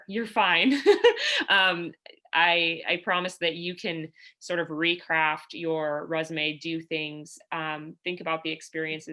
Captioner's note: laughter